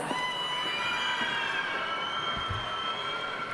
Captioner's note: cheering